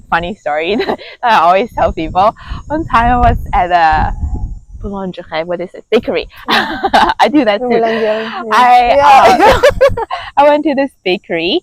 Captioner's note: confusing French and English